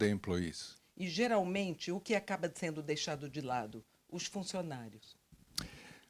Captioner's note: translator speaking Portuguese